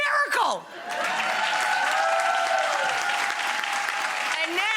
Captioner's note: audience cheering